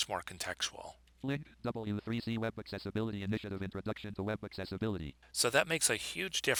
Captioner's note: synthesized speech